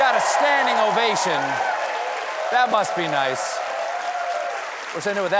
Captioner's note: cheers and applause